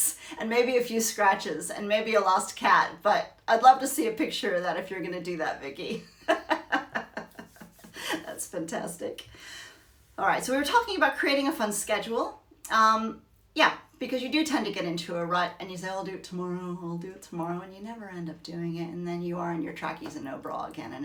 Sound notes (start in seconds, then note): 6.1 laughs